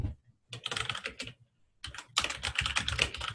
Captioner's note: typing